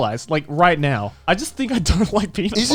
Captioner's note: laughing